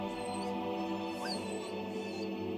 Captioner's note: dog whines